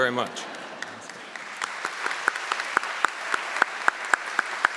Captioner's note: audience clapping